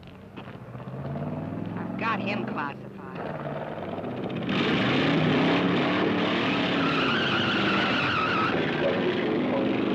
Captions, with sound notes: - I've got him classified. (engine revving) (tires screeching)